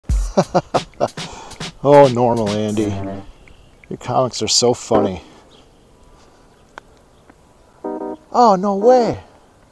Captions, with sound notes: *chuckles* Oh Normal_Andy! Your comics are so funny Ah no way!